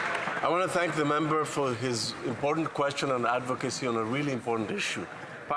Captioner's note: applause